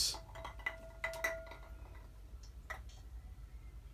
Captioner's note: ice clinking